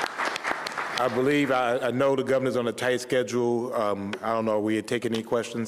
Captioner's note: applause